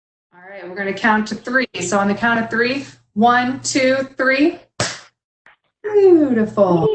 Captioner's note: clap